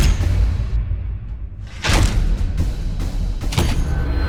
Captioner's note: engines roaring